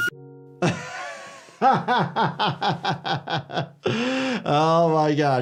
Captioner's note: laughing